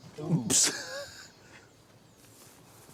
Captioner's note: chuckles